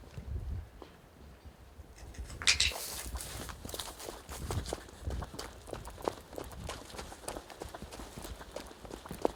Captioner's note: running footsteps